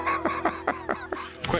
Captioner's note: laughs